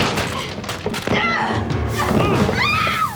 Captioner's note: crashing; grunts; margaret screams